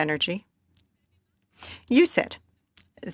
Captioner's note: speaking French